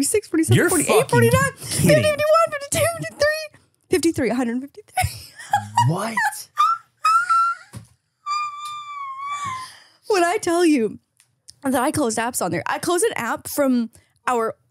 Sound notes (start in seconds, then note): 5.4 laughs